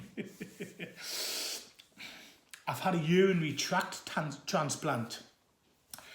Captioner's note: laughs